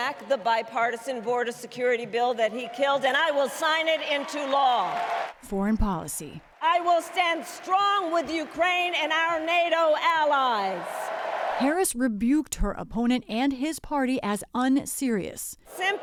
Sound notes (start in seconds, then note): 5.3 applause; 5.3 cheering; 11.5 applause; 11.5 cheering